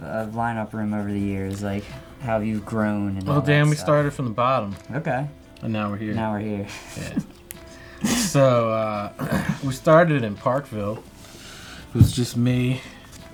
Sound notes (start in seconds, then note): 6.1 laughs